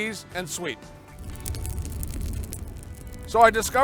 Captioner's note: fire crackles